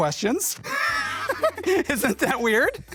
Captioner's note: laughing